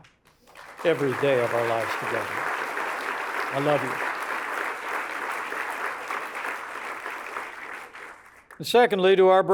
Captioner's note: applause